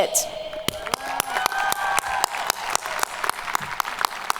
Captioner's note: audience cheering